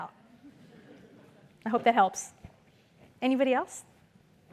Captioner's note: laugh